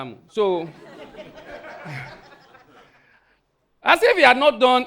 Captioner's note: audience laughing